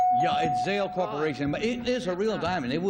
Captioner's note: dinging